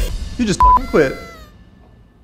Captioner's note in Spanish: Blip